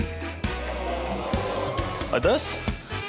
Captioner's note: audience exclaims